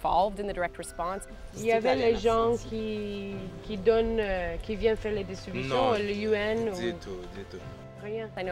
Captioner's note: speaking in French